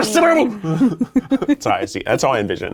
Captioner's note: laughing